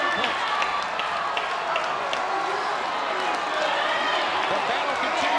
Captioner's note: audience cheers and claps